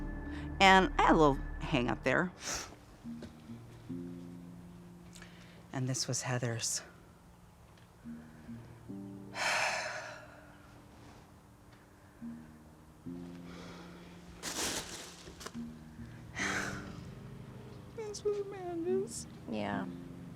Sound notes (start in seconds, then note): 9.4 sighing; 17.6 crying